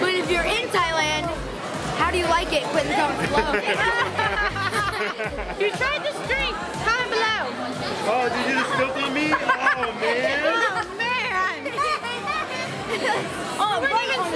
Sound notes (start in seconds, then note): 3.1 laughing; 12.8 laughing